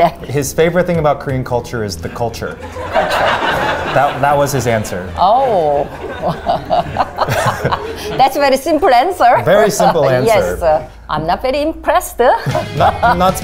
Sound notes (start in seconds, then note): 2.4 audience laughs; 7.0 laughs; 12.3 laughs